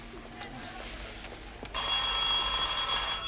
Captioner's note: ring